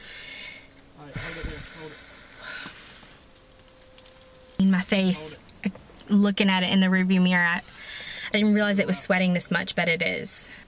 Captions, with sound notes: (Breathing heavily) My face...looking at it in the rearview mirror...I didn't realize it was sweating this much but it is.